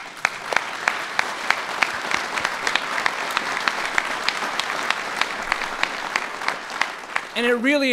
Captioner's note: applause